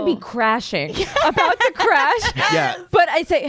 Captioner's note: laughter